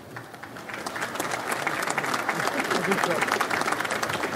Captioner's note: audience applauds